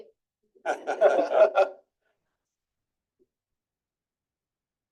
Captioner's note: trustees chuckle